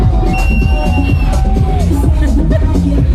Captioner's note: whistling in background; giggles